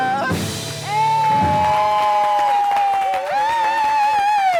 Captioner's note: cheering